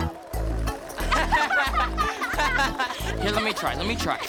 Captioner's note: laughing